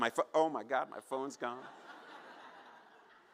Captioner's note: laughter